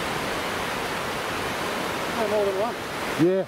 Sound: waves crashing

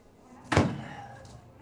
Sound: thud

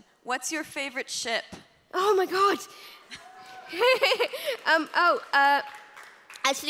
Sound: applause

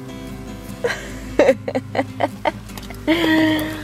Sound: laughs

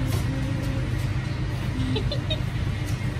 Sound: giggles

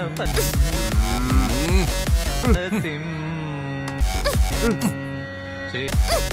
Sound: radio frequency changing continuously

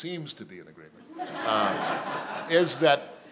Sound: laughter

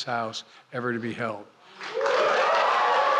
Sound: applause

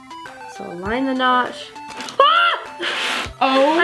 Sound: cries out

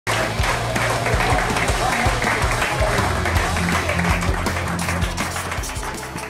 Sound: crowd applauding; rock music

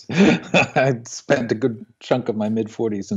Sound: laughs

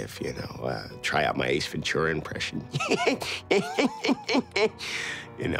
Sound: laughing

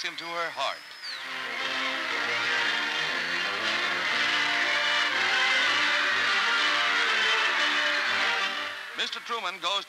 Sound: cheering and music

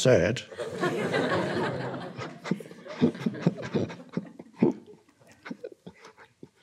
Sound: audience laughing; Eckhart laughing

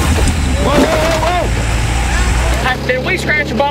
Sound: loud crunch

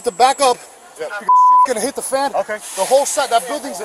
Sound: beeping

